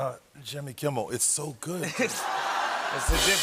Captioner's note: laughter; cymbal crash